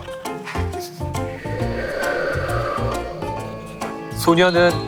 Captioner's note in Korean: 바람의 음향 효과